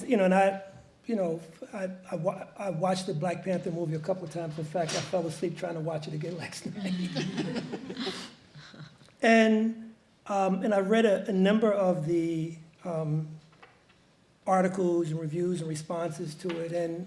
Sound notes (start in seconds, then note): 6.8 audience laughs